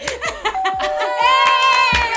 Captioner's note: doorbell rings